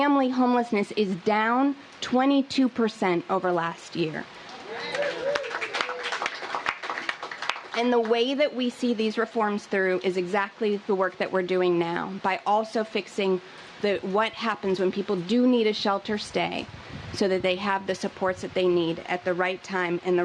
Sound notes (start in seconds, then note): 4.5 cheers and applause